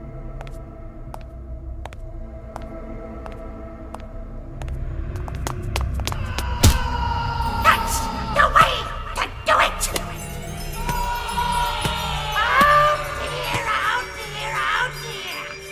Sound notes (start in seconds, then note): 0.3 footsteps; 6.1 thud - screams; 11.1 screaming